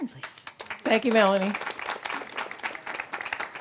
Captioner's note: audience applauding